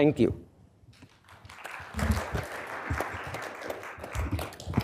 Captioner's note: applause